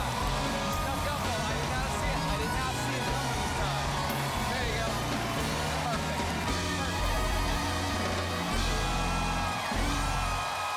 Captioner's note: cheers and applause